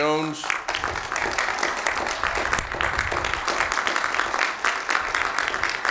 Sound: applause

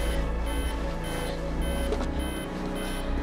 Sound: beeping continues

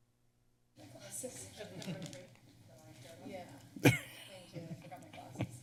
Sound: background chatter

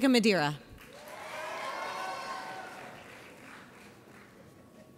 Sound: audience cheers

